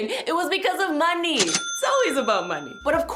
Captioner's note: cash register dings